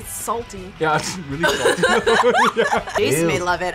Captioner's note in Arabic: كلاهما يضحك